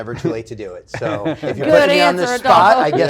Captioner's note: laugh